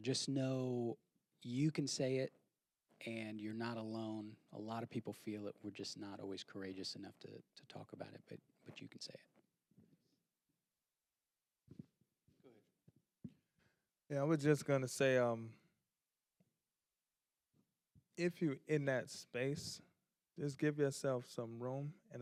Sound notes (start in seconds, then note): 12.3 quietly